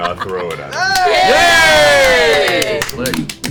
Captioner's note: all cheer